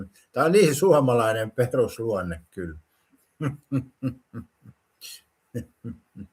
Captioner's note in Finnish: naurua